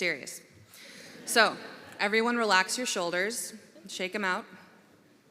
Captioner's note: laughter